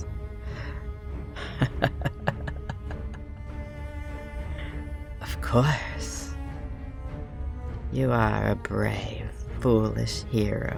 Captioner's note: evil laughter